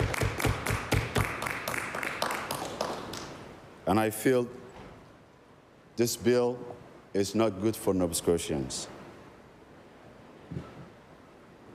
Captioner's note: applause